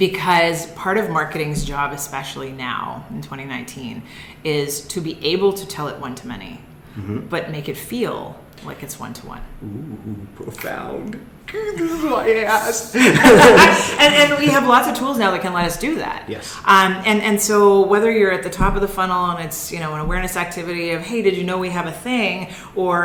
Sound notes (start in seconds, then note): 11.5 laughing